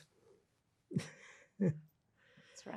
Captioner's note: laughing